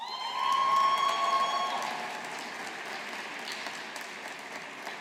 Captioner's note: audience applauding